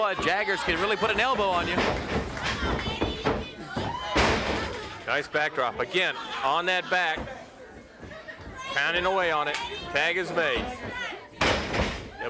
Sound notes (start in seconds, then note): 4.2 body thudding; 4.2 footsteps plodding; 9.4 hands clapping; 10.9 blows thudding